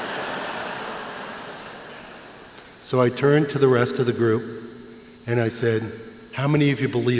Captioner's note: laughter